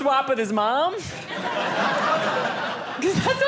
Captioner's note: audience laughing